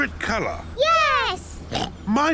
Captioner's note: oinks